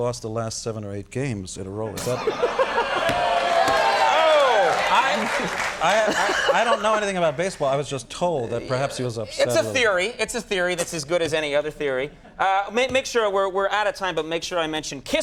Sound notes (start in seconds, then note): 2.0 Conan laughing; 2.0 audience jeering